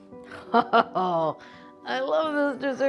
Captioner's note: Julia laughing